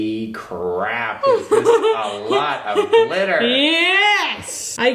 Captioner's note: laughing